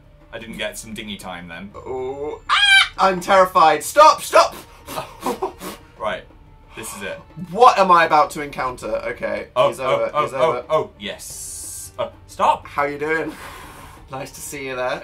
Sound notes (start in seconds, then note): 4.8 giggling; 5.5 blowing